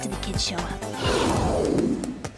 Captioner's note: growling